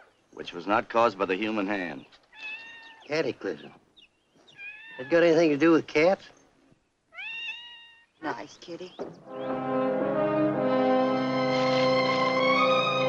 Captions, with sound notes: which was not caused by the human hand. Cataclysm. [ CAT MEOWS ] Had got anything to do with cat? Nice kittie! [ WORRYING MUSIC ]